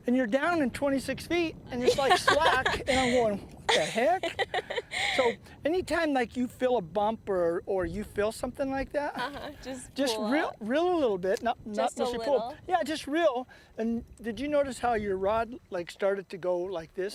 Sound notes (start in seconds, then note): 4.7 laughter